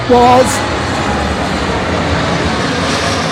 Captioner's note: noise of a landing plane